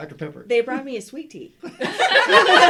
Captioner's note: laughter